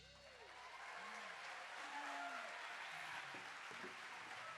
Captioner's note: audience applauding